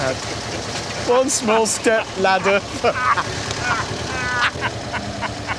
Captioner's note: they laugh